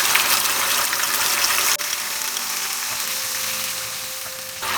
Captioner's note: sizzling sound of frying